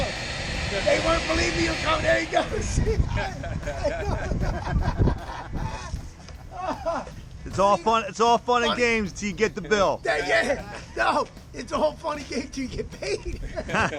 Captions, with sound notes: "They weren't believing me that you were coming, you gotta see- *laughs*" It's all fun and games till you get the bill. "Yea- no, it's all fun and games till you get paid!" *everyone laughs*